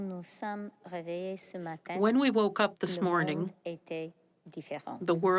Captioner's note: speaking French